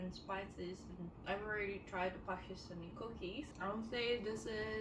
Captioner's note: none